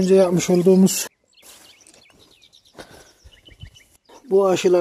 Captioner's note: bird sounds